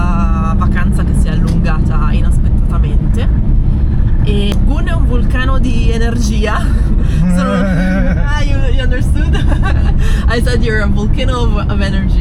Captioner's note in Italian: risate